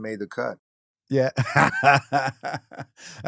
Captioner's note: laughs